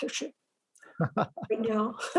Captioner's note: laughs